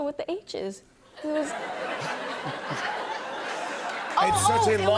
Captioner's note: laughter